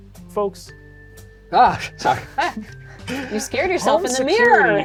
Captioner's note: laugh